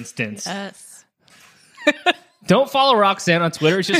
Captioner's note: laughing